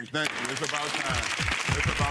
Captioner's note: gavel pounds